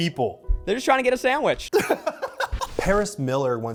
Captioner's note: laughs